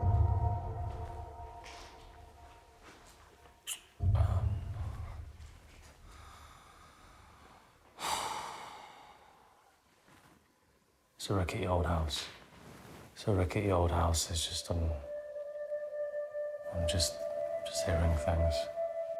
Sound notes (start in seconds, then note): 7.9 Danny sighs